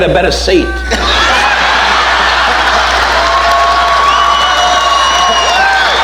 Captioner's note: audience laughing and applauding